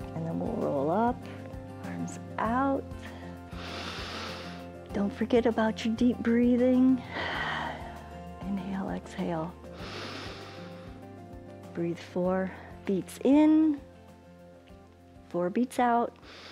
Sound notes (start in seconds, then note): 3.0 inhales; 7.6 exhales; 9.7 inhales